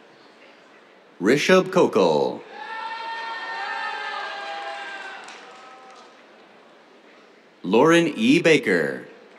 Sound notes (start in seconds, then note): 2.4 cheers, applause